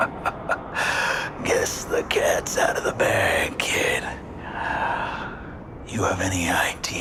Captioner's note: evil laugh; gravelly voice